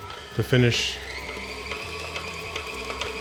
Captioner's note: mixer whirring